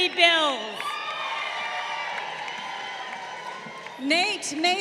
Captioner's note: crowd cheering